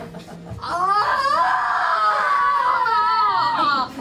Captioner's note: scream